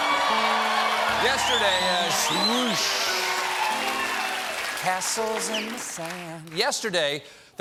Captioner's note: cheers and applause; piano riff